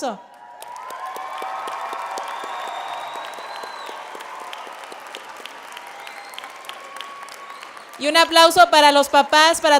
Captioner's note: applauding